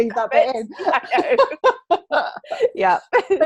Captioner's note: laughing